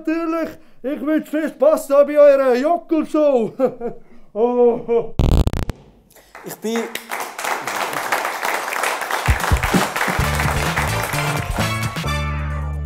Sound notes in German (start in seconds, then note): 5.2 Technische Störgeräusche; 6.2 Applaus